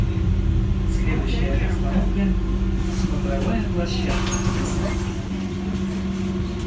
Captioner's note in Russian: открытие дверей